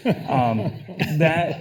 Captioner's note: people laughing